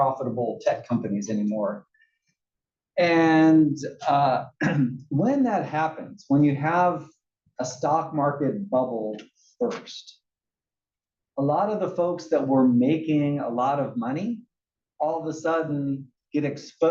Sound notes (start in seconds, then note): 4.5 cough